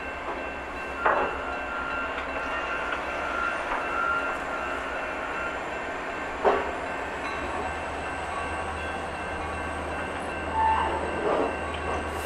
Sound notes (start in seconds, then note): 7.9 6233's godly horn is heard